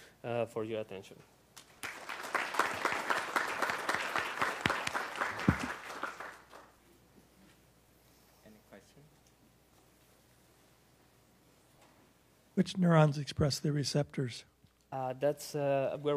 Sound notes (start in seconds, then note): 3.8 applause